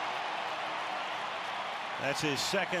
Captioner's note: cheering